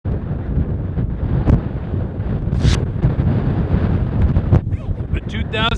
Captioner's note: wind blowing